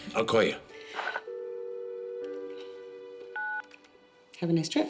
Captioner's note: dial tone buzzing